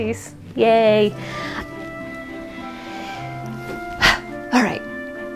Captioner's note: sharp exhale